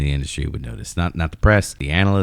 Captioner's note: uh